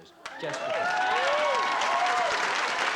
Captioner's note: cheering